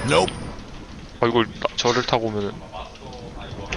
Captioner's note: surprised